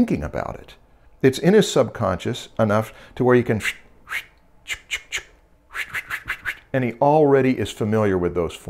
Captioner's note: pencil stroke sounds